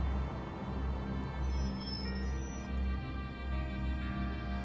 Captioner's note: brakes squeal